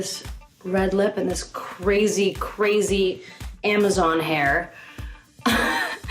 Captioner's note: laughs